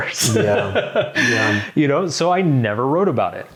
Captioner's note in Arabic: يضحك